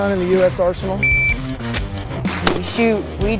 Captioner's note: device beeping; weapon firing